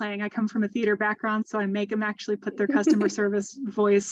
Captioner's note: laughter